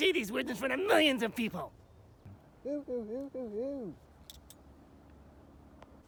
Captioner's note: more hooting and grunting